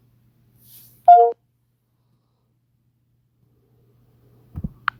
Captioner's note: computer beeps